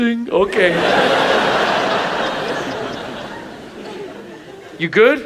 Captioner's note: audience laughs